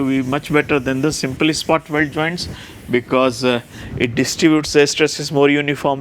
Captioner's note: metallic weld